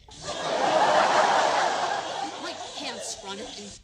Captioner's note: laughter